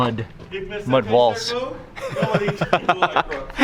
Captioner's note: man speaking in foreign language; laughs